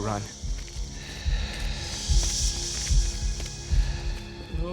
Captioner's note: heart beating